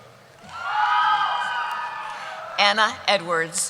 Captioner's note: cheering